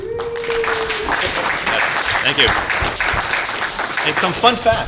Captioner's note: applause